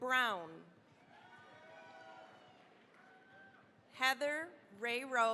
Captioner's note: cheering, applause